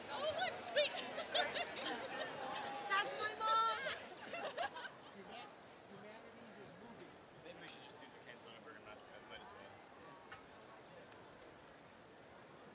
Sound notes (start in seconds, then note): 2.0 laughs; 4.3 students laughing